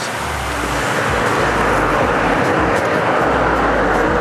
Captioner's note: rushing water